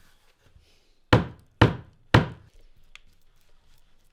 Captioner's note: hammer banging